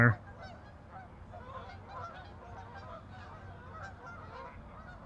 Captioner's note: geese honking